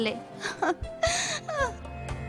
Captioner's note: baby laughs